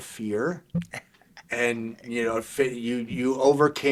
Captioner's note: chuckling